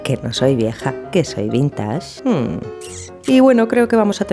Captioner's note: kiss